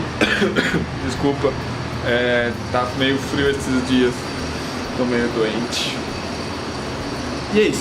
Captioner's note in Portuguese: tosse tosse